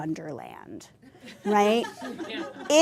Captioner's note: laughter